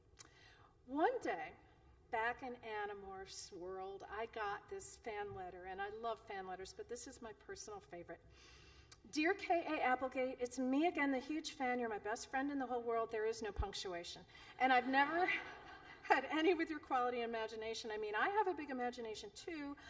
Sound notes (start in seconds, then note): 15.2 laughter